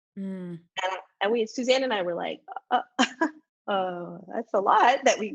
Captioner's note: laughs